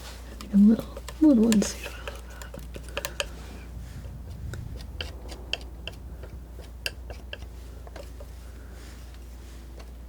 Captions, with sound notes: a little... a little onesie. [tapping]